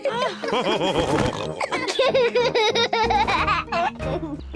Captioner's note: all laughing; laughs